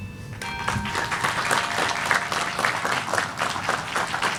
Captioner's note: applause